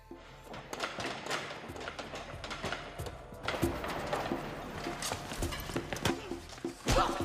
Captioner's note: tense music; footsteps stomping in